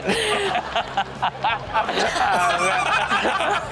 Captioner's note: all laugh